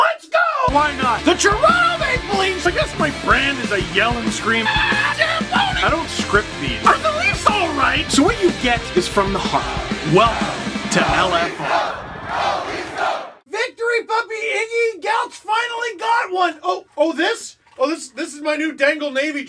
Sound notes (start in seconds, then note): 0.4 rock music plays throughout intro; 4.6 screams; 9.4 Go Leafs Go chants